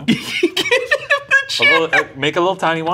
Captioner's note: laughing